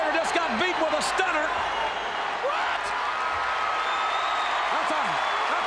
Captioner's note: crowd cheers wildly